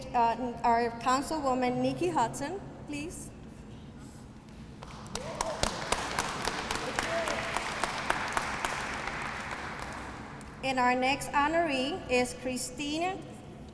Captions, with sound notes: and our councilwoman, Nikki Hudson, please. [APPLAUSE] And our next honoree is Christina